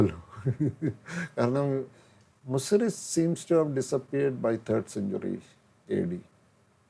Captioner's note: laughs